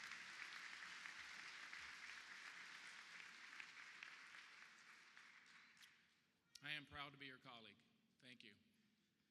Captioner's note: applause